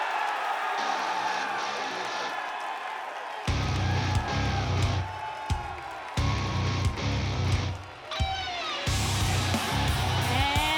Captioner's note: cheers & applause